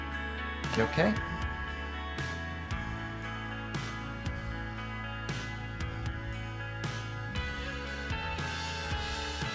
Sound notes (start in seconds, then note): 0.9 voiceover